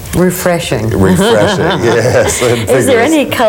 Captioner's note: laughs